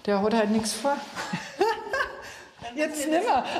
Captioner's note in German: lacht